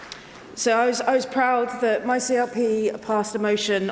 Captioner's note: applause